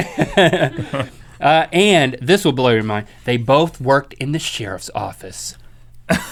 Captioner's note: laughs